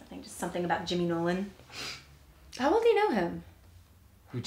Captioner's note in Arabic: none